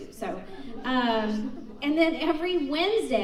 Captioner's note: audience laughs